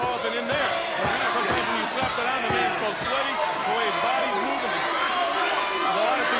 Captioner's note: audience cheering and chanting